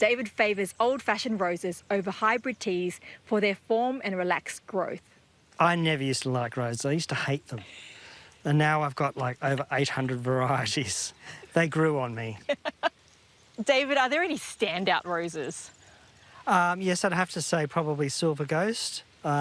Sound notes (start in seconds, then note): 12.4 laughs